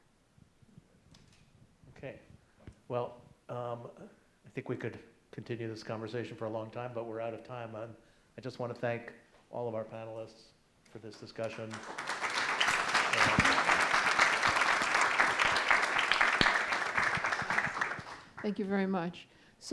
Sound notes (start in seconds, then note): 11.4 audience applauds